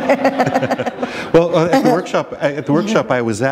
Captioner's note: laughter